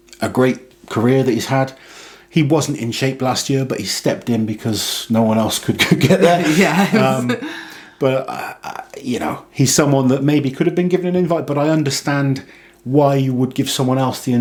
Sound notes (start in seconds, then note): 5.8 laughs